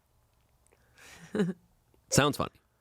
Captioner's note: laughs